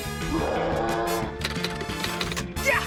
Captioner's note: roars; keys clack